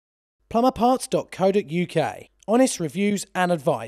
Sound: voiceover

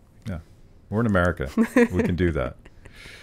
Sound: laughs

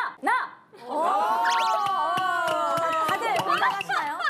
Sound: Laughing at Lea's confidence

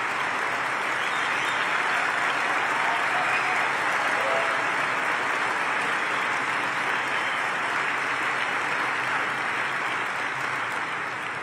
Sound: applause and cheers

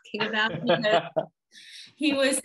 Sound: laughing

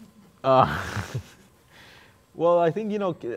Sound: laughs

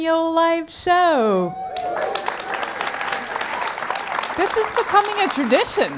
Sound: applause

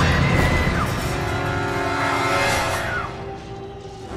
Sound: Lindsay screaming

